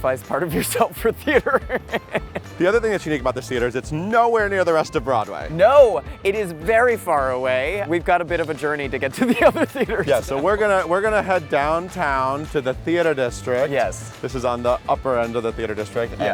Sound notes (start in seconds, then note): 0.4 laughs; 9.1 laughs